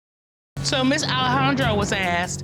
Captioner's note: audience laughing